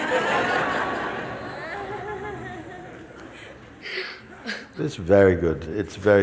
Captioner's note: laughter